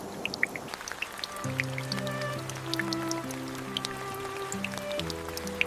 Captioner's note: rain falling on the parked truck